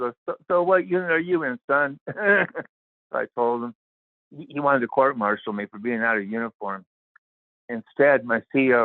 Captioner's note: laughter